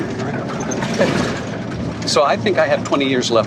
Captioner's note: laughs